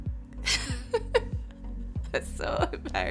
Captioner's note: laughs